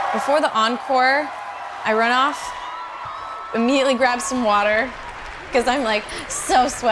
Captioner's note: applause